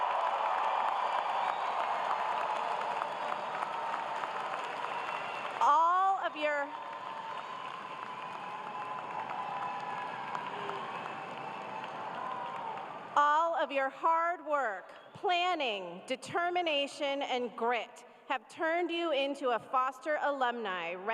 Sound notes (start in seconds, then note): 0.0 cheers and applause